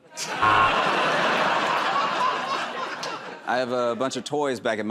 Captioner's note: laughter and applause; buzzer